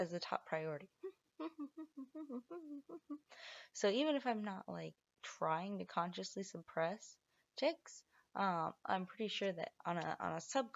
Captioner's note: hum